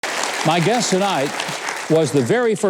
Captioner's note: audience clapping